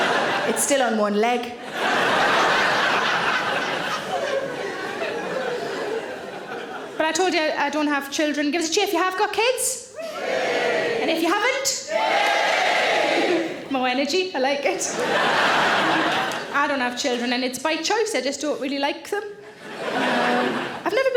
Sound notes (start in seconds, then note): 0.0 audience laughing; 10.1 audience cheering; 14.8 audience laughing; 19.5 audience laughing